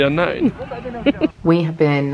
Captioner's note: giggles